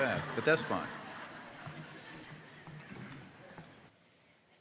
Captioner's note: audience laughing